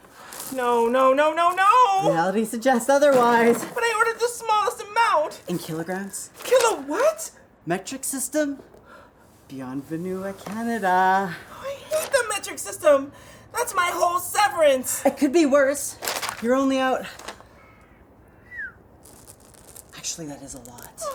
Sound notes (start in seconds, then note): 18.3 whistles